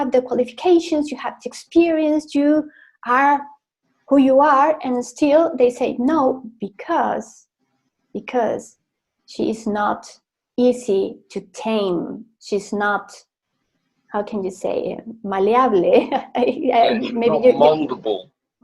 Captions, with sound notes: "Tienes las calificaciones, tienes experiencia, eres quien eres y todavía te dicen no", porque es fácil de "domar". ¿Cómo se dice? No es maleable. (Risas) -No es moldeable.